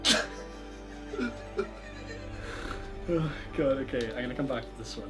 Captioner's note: laughs